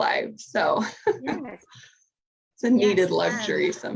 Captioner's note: laughs